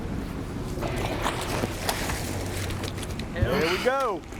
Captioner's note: fish splashes